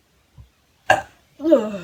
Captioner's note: burp